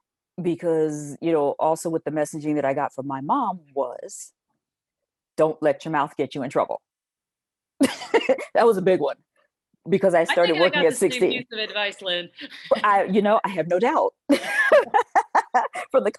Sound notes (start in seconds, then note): 8.0 chuckles; 14.4 laughing